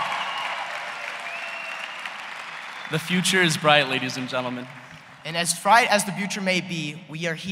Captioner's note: cheers and applause